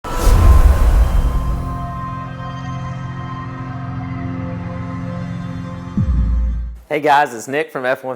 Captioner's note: sound effect